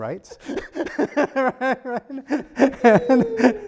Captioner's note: laughs